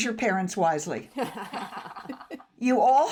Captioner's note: everyone laughs